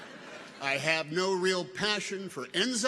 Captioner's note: people chuckle